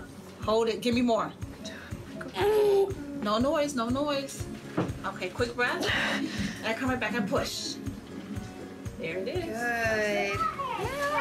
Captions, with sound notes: Hold it, give me more. (grunts) No noise, no noise. Okay, quick breath, and come right back and push. There it is. - Good.